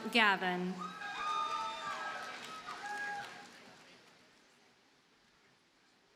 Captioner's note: audience cheers and applauds